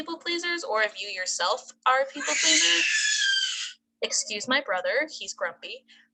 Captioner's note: baby screeching